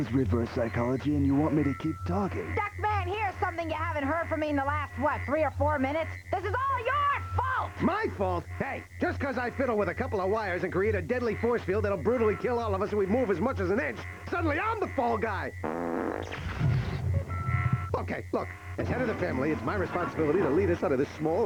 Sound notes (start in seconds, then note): 15.6 breaking wind